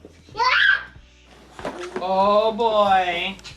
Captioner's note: child screams